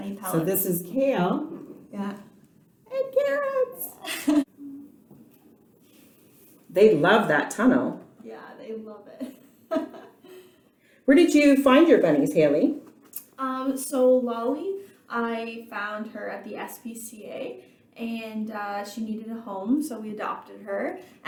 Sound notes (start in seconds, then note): 9.2 laughing, holding a carrot to the rabbit